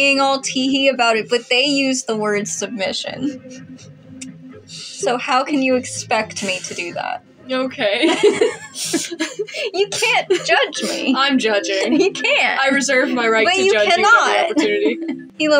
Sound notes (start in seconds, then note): 2.9 quiet Laugh; 7.9 both Laugh; 15.0 chuckle